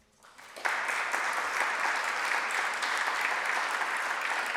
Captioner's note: applause